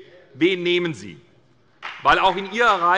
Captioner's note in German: Beifall bei der SPD